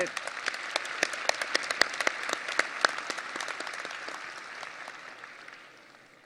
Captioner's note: audience applause